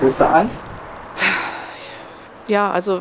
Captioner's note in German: Sie seufzt